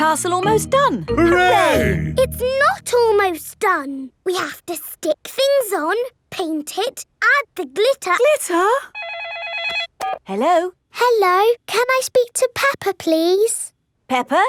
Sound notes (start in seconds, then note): 8.9 phone rings